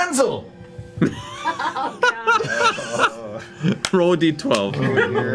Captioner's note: weak laughter